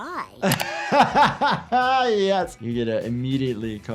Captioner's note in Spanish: riendo